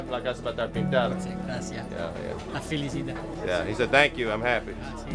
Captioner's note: speaking Spanish